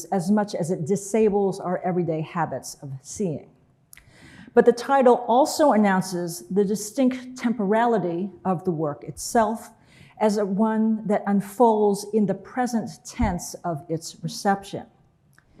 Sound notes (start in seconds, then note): none